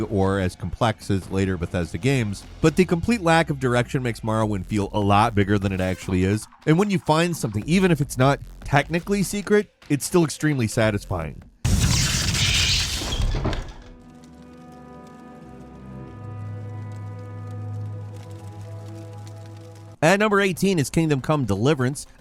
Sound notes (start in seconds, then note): 11.6 lightning strikes; 14.1 tranquil ambient music